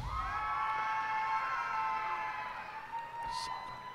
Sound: cheers and applause

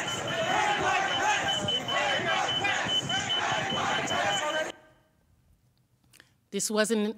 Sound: chanting

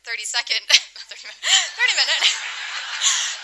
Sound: laughter

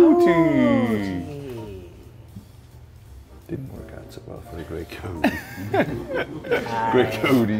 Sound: laugh

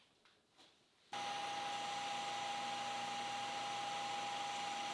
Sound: machine whirs

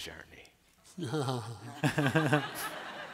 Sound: laughter

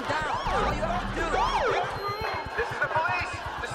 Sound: SIREN SQUAWKlNG

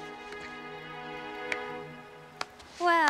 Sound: clapping

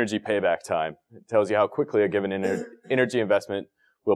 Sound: cough

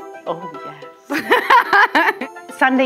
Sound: laughs

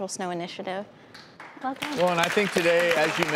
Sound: applause

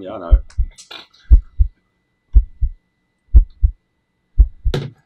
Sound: heart beating

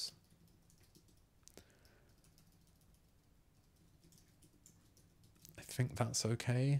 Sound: silence

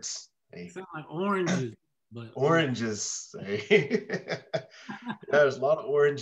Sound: laughs

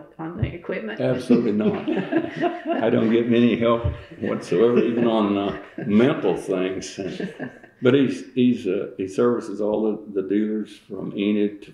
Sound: laughter

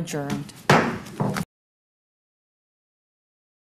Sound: gavel bangs

